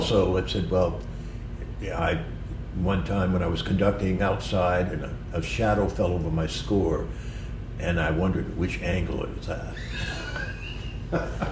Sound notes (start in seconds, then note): 9.7 laughter